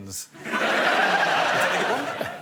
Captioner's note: laughter